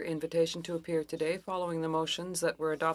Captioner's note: speaking French